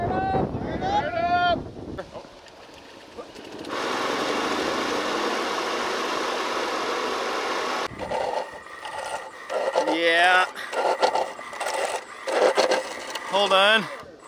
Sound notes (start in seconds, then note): 3.6 machinery engine revs; 7.9 machinery squeaks